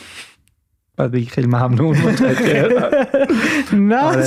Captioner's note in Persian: خنده